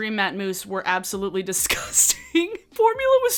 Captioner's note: giggles